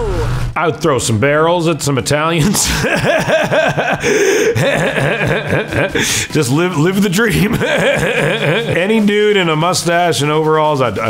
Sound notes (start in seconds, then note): 2.4 laughs